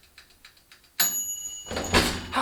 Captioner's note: ding